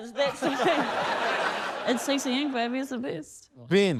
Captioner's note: laughter